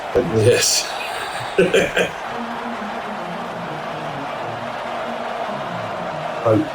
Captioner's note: crowd Noises